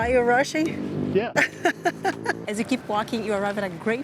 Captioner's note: laughs